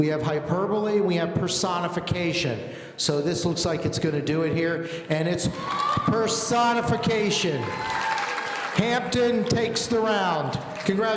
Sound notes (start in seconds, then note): 7.4 audience cheering